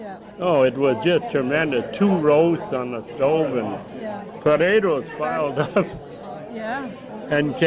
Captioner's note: laughs